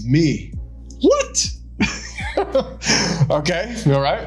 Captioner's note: laughing